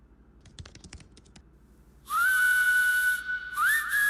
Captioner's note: typing